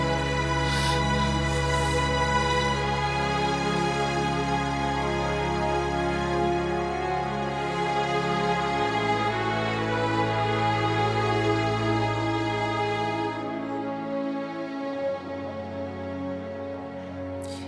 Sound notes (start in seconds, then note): 1.1 Matt crying; 1.1 somber music